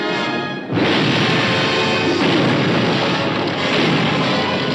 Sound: explosion roaring

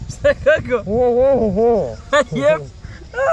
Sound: mumbling

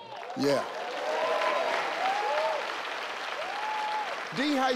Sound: audience cheering

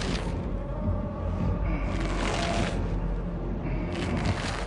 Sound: groans; ripping sound

